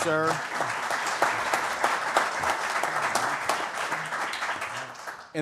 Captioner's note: applause